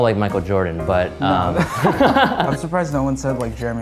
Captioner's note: men laughing